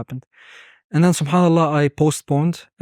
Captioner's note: speaking Arabic